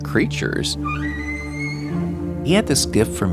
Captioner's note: whale calling